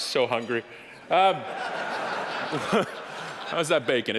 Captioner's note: audience laughing